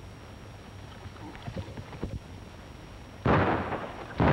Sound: gunshots

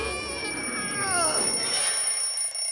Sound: alarm rings

